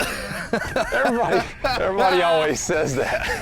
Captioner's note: both laughing